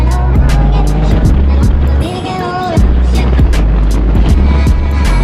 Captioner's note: car engine revving